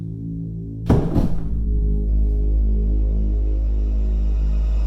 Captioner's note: dark music; body thumps